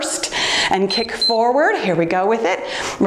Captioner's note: timer beeps